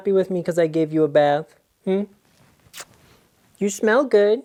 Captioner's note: lips smacking